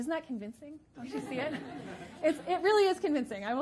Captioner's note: audience laughing